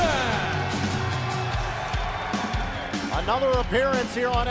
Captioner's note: crowd cheering